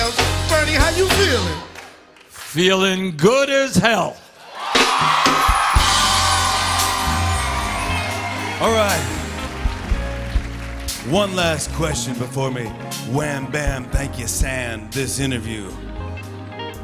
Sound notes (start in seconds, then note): 4.4 cheers and applause; 6.2 slow R&B music playing